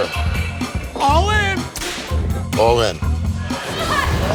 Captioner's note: whip cracking